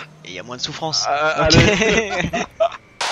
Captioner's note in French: rires